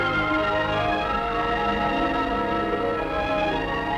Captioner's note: none